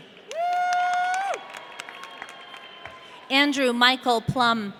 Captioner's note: audience cheering